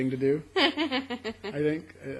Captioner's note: laughs